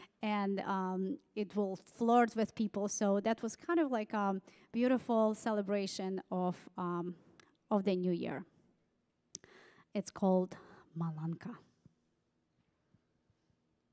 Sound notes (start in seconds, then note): none